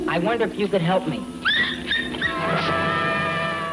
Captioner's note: dog barking and whimpering